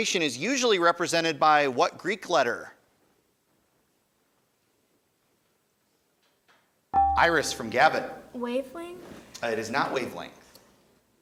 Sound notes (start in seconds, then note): 7.2 buzzer chimes